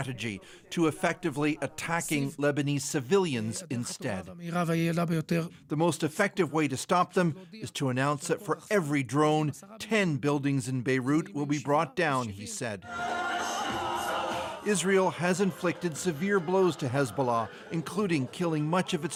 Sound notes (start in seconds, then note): 6.0 speaking alternate language